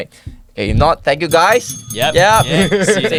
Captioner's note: ring ring ring